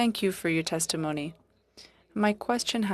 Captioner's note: speaking French